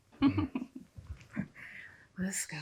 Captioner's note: Erica laughing